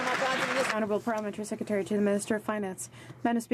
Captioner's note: some Applause